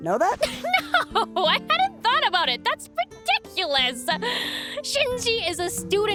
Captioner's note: laughs